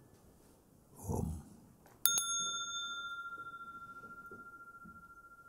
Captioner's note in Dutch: rinkelt bel